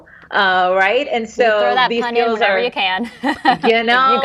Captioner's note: laughs